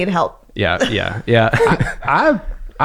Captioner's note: laughs